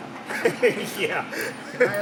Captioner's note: laughs loudly